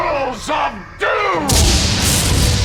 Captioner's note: thunder crashing